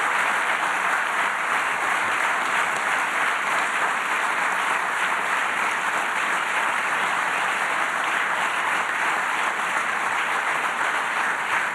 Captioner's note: applause